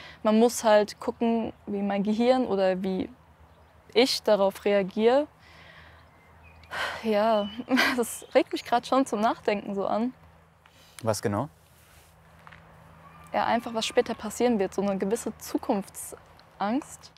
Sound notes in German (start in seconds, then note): 6.7 Seufzen